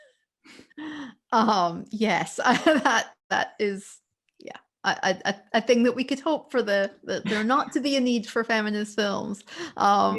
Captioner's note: laughter